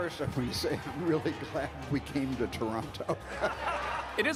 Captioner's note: cheering